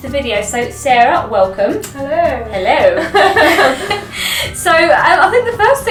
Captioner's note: they laugh